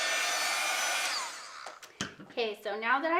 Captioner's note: switch clicks